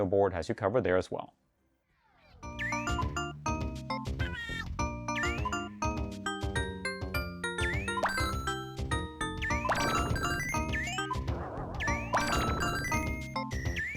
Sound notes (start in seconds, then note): 3.2 painfully Cute Bubble Related Sounds